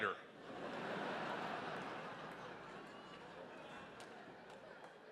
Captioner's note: audience laughing